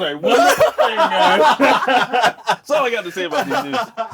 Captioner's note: all laugh